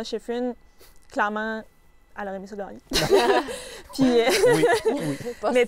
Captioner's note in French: rires